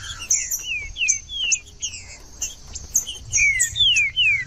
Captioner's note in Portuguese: trinca ferro cantando